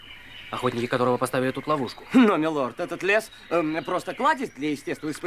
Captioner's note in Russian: откашливается